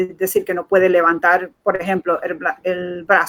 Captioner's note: speaking in Foreign Language